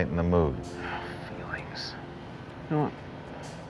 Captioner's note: whispers & Sighs